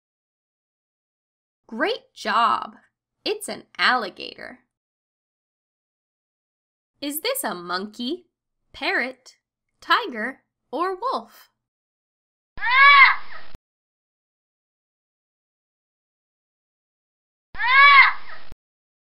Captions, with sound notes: Great job, it's an alligator. Is this a monkey, parrot, tiger, or wolf? (parrot squawking)